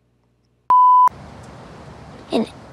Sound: beep

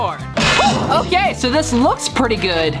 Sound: slamming

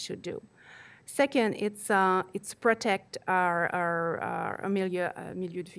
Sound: speaking foreign language

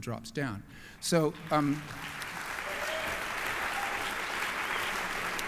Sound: applause

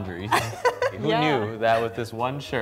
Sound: laughing

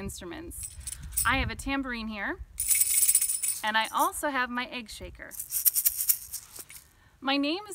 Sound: jingling; rattling

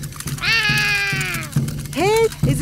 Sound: roaring

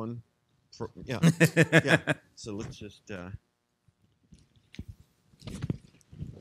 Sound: laughing

